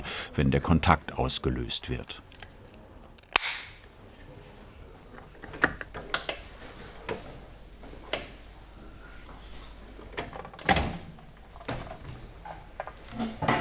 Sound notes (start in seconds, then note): 3.2 click